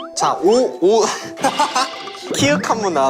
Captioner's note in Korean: 빵 터짐